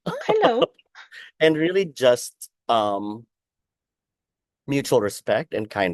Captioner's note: laughs